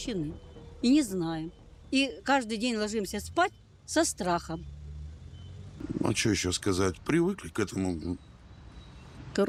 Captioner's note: speaking Alternate Language